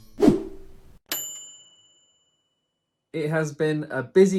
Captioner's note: air whooshing; bright bell dinging